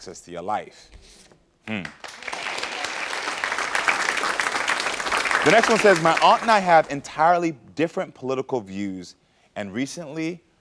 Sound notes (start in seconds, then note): 1.7 audience clapping